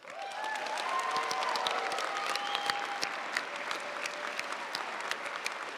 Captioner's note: audience cheering and applauding